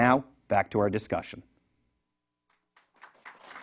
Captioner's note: applause